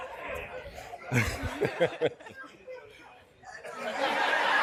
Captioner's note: laughter